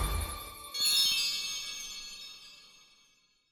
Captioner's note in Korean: 반짝이는 효과음